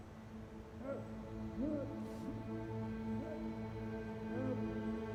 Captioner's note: ominous music; Stuart muffled screaming